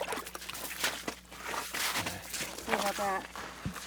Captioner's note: fish splashing